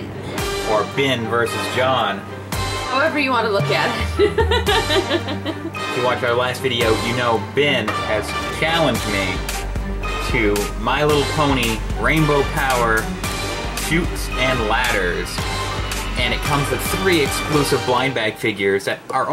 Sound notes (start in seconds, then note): 4.0 laughs